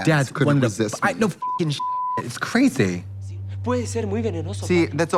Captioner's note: beep